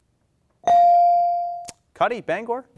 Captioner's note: bell dings